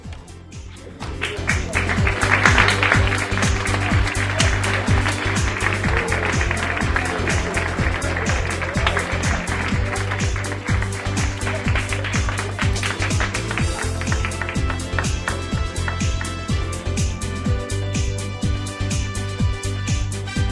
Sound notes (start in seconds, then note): 6.7 applause